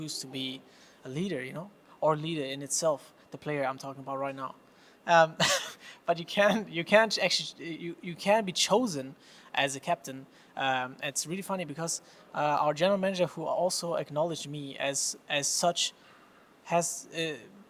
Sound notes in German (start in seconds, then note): 6.4 lacht